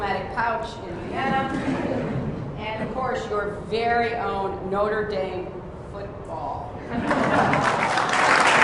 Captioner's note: laughter; applause